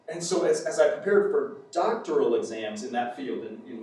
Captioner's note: none